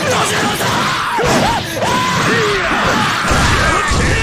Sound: crying

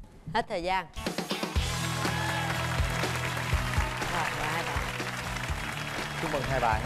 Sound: applause

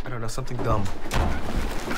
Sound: door Closes

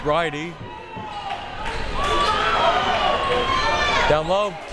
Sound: crowd members shouting

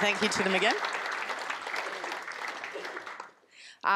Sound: audience applause

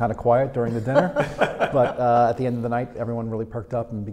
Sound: laughing

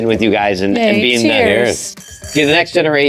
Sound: glasses clink

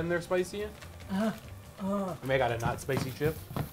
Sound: groans

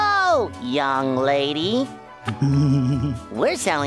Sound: Patrick giggling

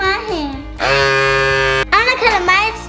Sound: motor rumbles loudly

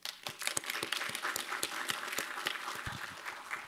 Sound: applause

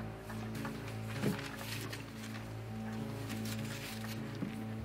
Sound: papers ruffling

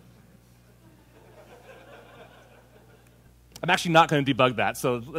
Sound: laughter

